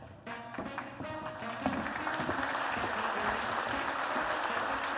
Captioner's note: applause